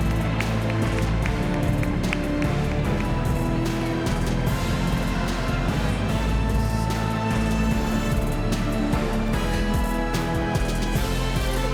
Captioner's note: applause